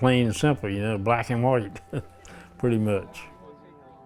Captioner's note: laughs